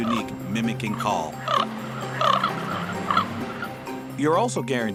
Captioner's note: cawing